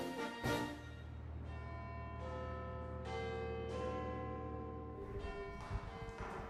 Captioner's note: Big Ben's chimes ringing